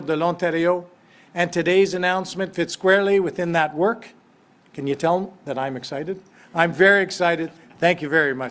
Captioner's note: speaks French